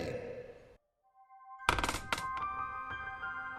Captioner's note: bed creaking